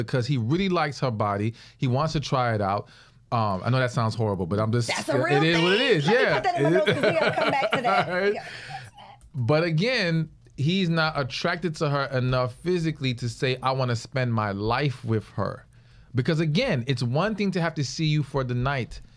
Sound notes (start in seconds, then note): 6.7 laughs